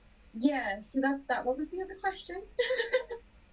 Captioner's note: laughs